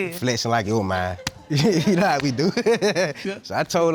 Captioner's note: laughs